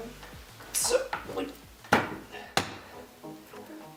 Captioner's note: thuds